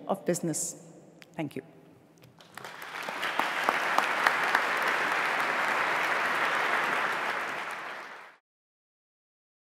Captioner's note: applause